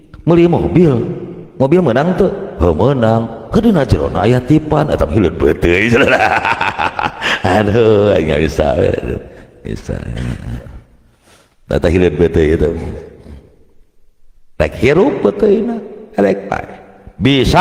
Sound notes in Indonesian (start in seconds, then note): 5.8 tertawa